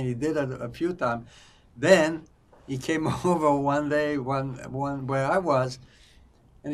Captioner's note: laughing